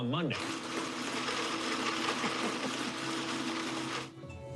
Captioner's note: blender whirring; gentle music